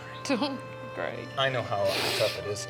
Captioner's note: somber music; crying